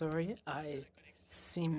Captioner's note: speaking French